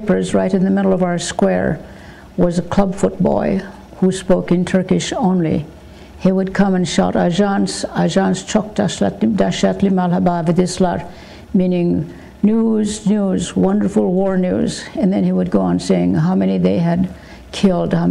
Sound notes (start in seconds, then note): 6.9 speaking in foreign language